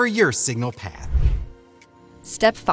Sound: air whooshes

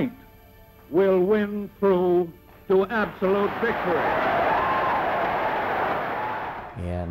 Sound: cheering

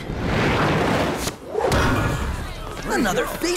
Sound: whoosh

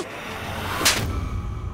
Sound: slapping

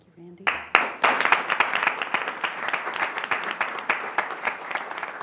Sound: applause

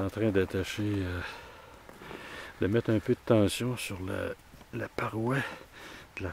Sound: in french

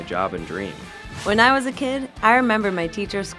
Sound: voiceover

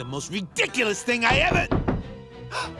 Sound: knocking

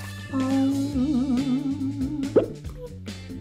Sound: popping

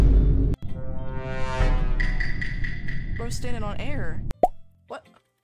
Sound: none

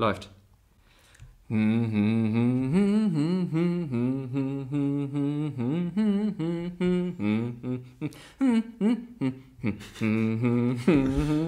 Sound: hums

